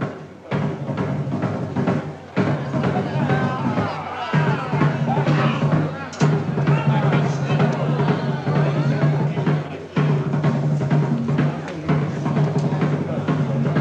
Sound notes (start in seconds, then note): 0.1 dramatic music; 3.8 people chattering